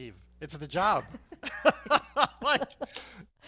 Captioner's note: laughs